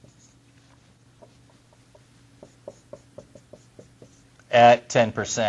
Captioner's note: writing on whiteboard